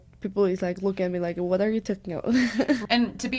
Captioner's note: laughs